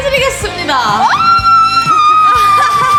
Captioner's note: Grito de alegría